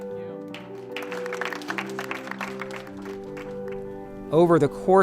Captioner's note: all applauding